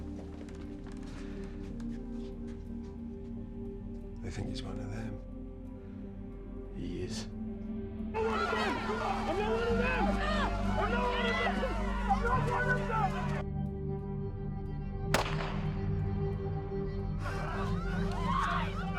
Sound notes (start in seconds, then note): 8.2 angry mob shouting; 15.1 gunshot